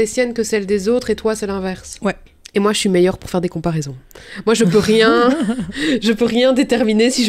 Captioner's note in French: rire